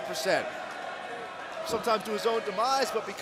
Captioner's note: crowd cheering